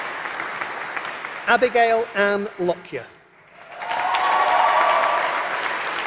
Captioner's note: applause